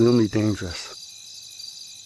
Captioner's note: crickets